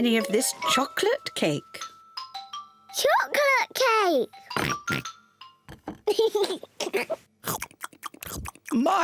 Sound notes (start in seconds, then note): 4.6 oinks; 6.0 giggles